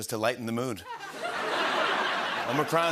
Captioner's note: laughter